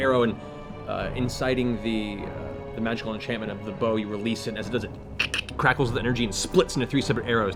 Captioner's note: crack crack